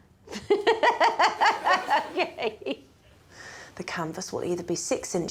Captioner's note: laughs